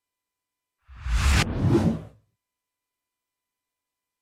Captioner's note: swoosh